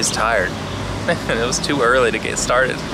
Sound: chuckles

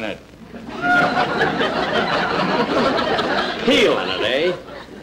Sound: audience Laughing

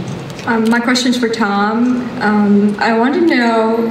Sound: voiceover

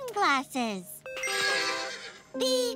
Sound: neighing

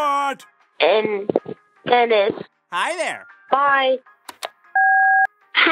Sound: soundbite of beep

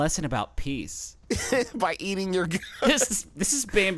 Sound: laughs

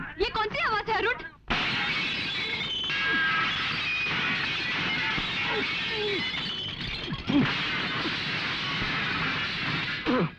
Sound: glass shatters

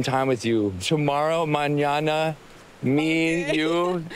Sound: speaking spanish

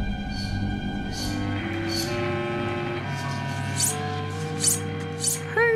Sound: tense music; knife being sharpened

